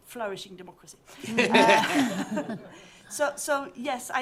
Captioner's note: laughter